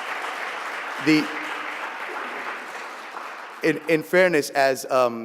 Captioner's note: applause